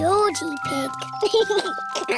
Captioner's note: giggles